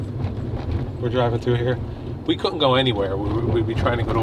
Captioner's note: none